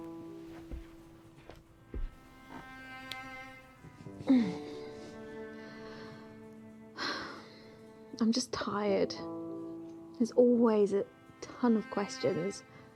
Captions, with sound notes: (gentle orchestral music) (sighing) I'm just tired. There's always a ton of questions.